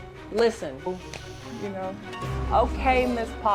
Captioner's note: phone rings